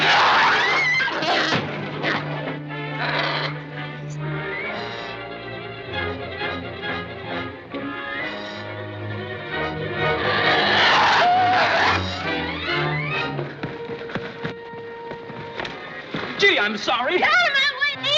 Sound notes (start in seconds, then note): 0.0 screams; 2.9 roaring; 10.4 gasping